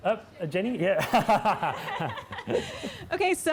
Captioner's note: laughing